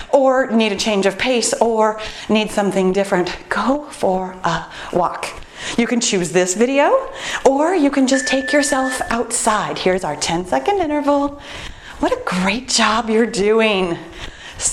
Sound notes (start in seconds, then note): 8.0 timer beeps